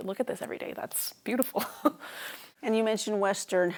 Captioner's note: laughs